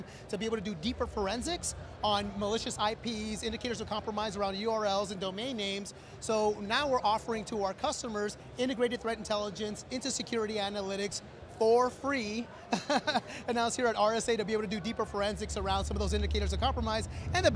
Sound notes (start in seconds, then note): 12.6 chuckles